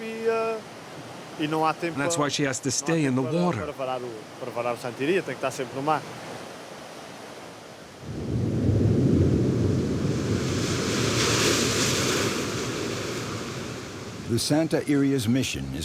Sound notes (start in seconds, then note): 8.0 thunder rumbling; 10.5 waves crashing